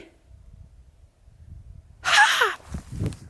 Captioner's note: excited laugh